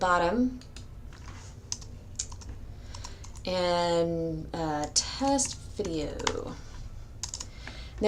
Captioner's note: typing